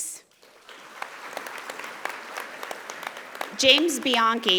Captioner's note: audience applauding